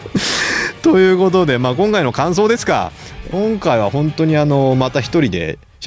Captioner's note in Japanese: 笑い; 息をのむ音